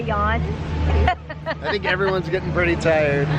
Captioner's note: laughing